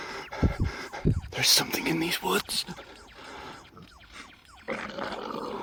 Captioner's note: whispering; snarl